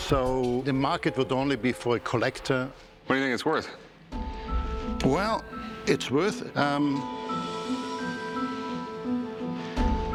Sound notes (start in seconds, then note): none